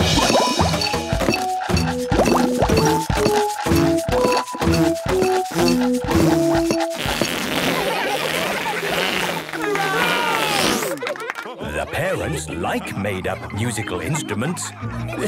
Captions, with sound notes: - (all instruments playing) - (balloon squealing) - (children laughing) - (applause, cheering) - The parents like made-up musical instruments!